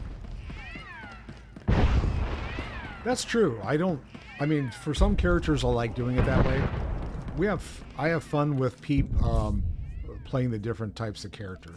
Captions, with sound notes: (gunfire) That's true, I don't, I mean, for some characters I like doing it that way. We have, I have fun with Peep playing the different types of characters.